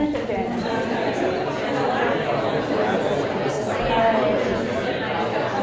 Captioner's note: audience talking